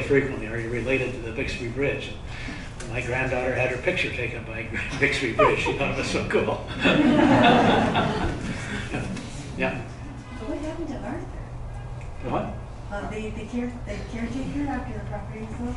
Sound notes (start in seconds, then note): 6.7 laughter